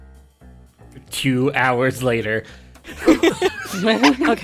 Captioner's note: EVERYONE laughs